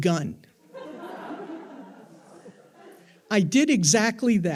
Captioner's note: attendees laughing